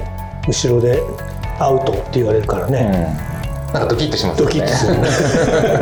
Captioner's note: laughs